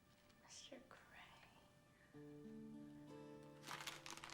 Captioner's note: whispering